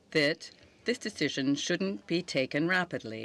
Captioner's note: speaking French